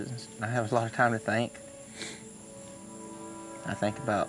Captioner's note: sniffs